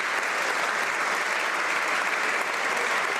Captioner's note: some Applause